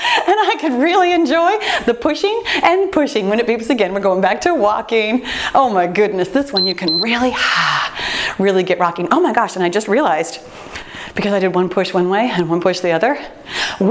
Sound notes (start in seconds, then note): 0.0 laughs; 6.5 timer beeps; 8.1 sighs